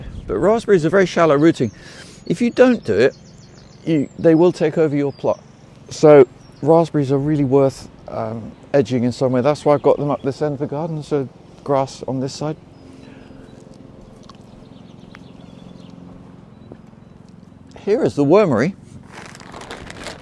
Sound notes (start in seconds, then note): 14.4 mower groaning